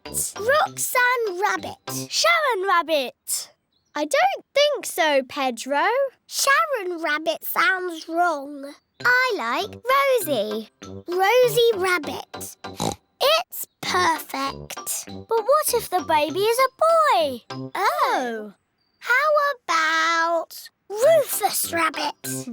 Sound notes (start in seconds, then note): 12.6 oinks